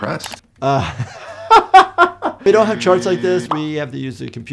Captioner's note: laughs